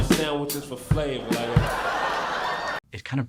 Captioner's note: crowd laughing